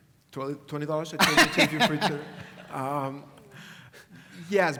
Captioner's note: laugh